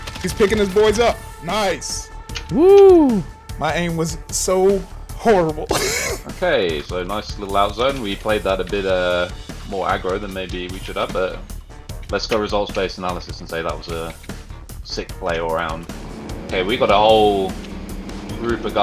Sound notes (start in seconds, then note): 5.6 laughs